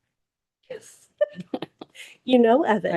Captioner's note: board members chuckling